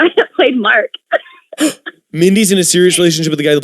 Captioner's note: surprised gasp